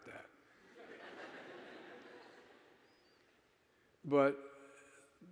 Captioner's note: audience laughing